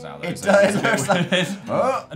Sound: laughs

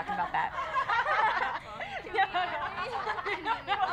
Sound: loud laughter

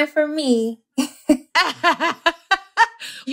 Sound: laughter

